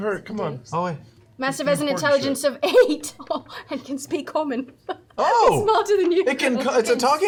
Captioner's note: laughs